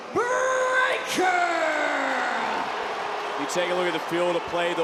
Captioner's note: audience booing